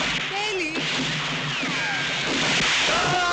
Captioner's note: guns firing; groans